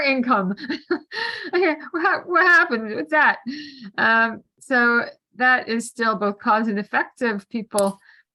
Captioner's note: laughter